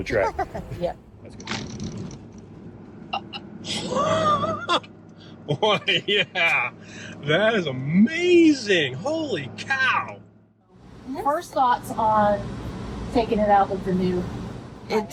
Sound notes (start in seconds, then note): 0.3 laughs